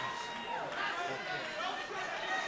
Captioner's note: cheers & applause